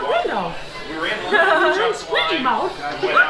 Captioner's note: laughs